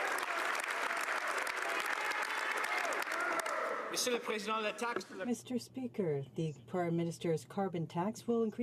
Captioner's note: some Applause